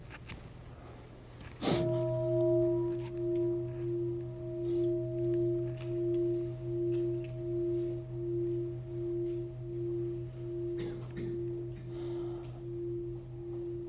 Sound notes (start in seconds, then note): 1.7 bell sounds